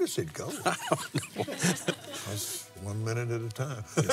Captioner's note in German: lacht